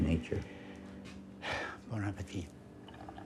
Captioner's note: sighs